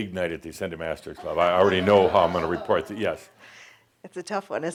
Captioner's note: some chuckles